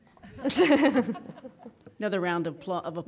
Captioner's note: laughing